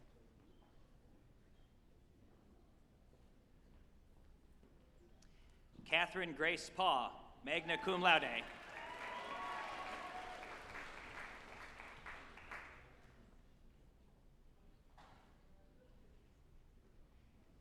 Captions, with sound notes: Catherine Grace Pack, magna cum laude, (group applauding and cheering)